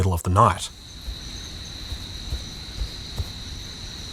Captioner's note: night waiting noises